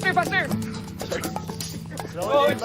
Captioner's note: panting